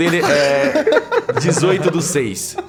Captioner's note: everyone laughs